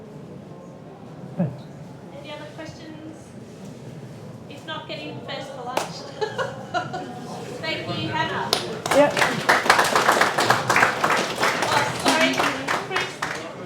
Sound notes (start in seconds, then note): 6.0 laughs; 9.8 applause